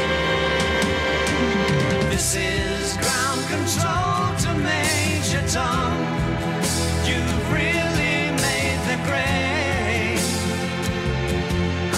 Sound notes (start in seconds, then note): none